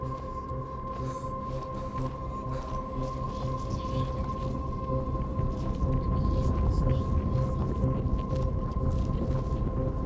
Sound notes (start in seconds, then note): 3.7 ground rumbling